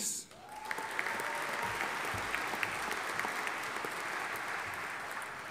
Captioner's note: audience applauding